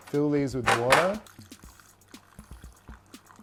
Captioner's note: water slowly trickling